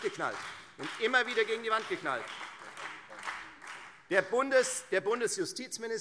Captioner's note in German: Beifall Freie Demokraten